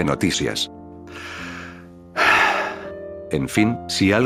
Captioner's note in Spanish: Suspiro